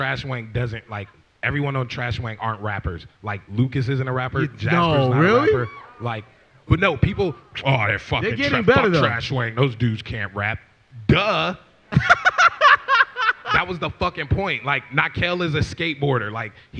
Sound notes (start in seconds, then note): 11.9 laughs